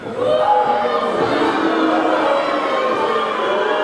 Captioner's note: audience booing